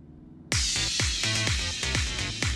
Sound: radio playing

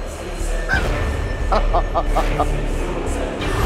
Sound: evil laugh

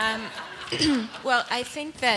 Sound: laughter

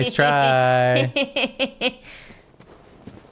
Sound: snickerring

